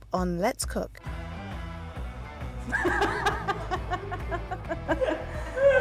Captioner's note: laughs